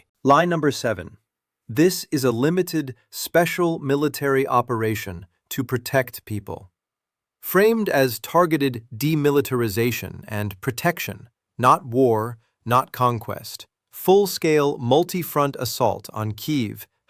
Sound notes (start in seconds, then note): 5.8 sarcastic